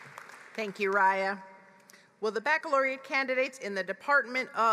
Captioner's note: applause